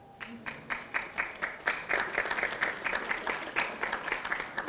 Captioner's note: audience applauding